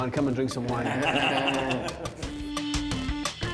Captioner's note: all laughing; upbeat funky music